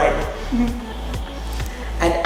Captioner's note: chuckling